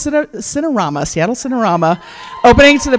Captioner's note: cheers